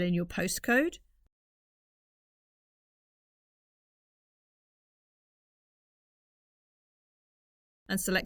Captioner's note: silence